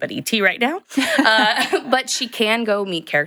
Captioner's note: chuckles